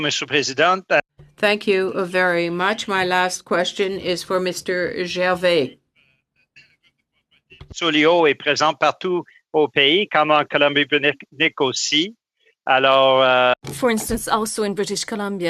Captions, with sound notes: Mr. Mr. JULIAN. >> [ Speaking French ] >> THANK YOU VERY MUCH. MY LAST QUESTION IS FOR Mr. GERVAIS.